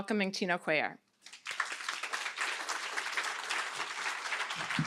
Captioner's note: applause